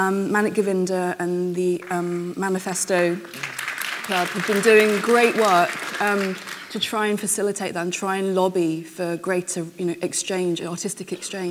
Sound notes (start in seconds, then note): 3.2 applause